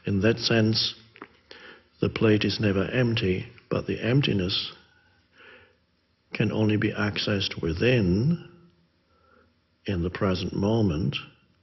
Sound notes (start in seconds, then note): none